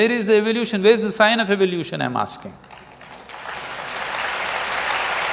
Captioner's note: applause